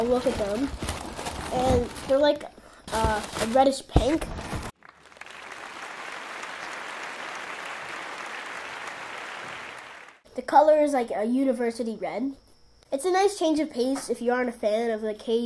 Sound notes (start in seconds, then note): 8.1 clapping